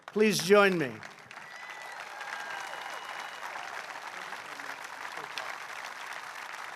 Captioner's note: applause